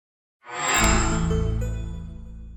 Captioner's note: chime